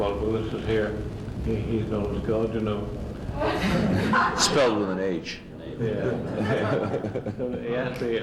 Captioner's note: laughter